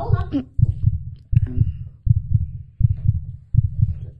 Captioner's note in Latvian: dzirdami pastiprināti sirdspuksti